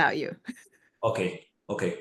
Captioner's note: laugh